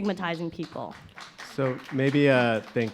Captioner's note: audience applauding